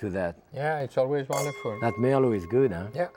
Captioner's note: glasses clinking